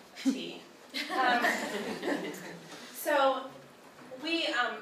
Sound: crowd laughs

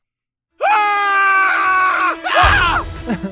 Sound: Chris screams; guys scream

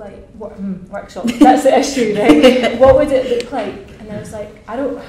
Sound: laughs

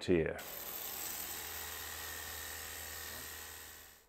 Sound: pressure washer hums

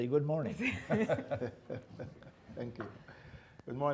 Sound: laughs

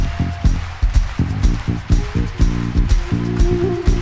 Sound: audience clapping along

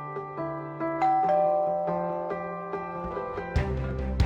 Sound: door bell rings

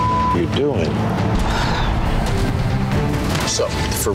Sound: beep; sighs

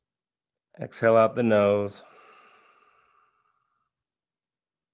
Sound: exhaling

